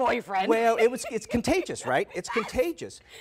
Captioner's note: laughter